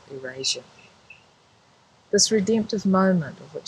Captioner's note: birds chirping